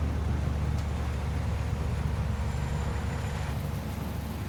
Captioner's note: trucks rumbling